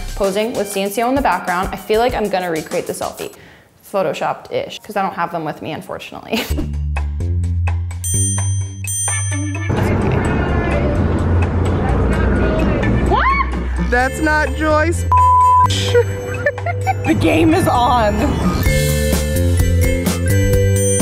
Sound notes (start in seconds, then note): 6.5 jazzy music; 15.7 giggling; 18.5 jazzy music